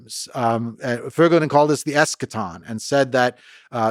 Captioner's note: speaking in foreign language